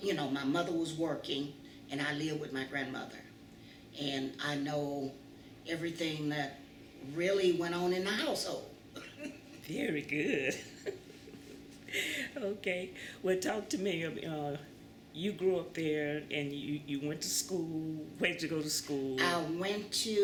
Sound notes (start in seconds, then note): 10.2 laughs